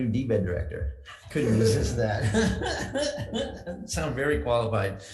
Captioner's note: laughs